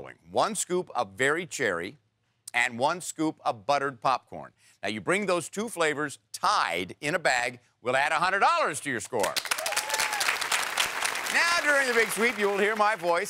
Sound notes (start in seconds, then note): 9.2 applause